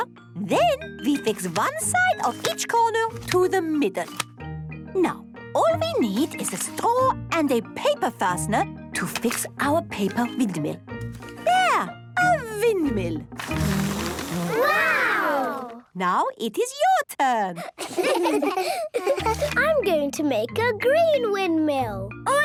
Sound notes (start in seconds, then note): 13.4 blows